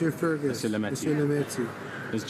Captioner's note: speaking in french